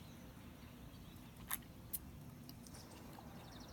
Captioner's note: continues chewing